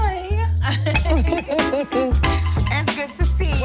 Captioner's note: all laugh